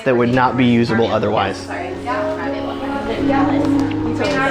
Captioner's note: women murmuring